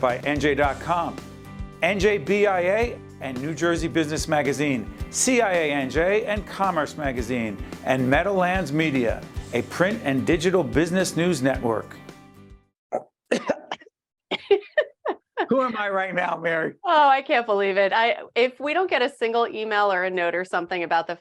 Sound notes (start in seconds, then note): 13.2 coughing; 14.3 laughing